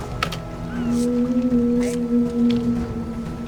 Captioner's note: recorded whale song plays